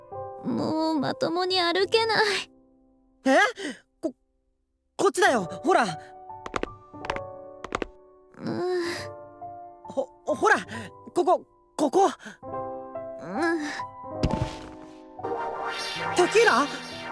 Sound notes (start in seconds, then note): 8.4 weary groan; 13.4 worn out groan